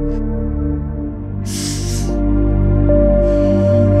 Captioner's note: Exhales